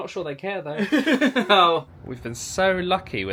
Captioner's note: chuckles